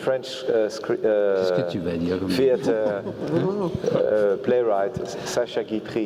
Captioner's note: laugh